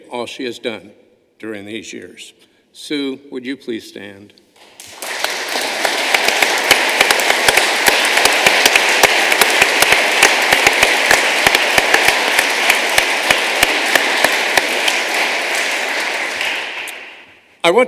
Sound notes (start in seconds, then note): 4.5 applause